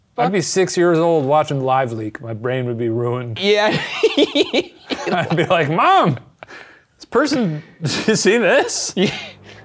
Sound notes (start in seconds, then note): 3.6 laughs